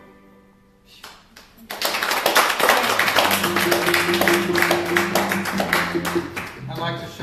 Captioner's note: applause